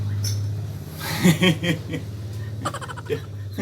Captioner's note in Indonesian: tertawa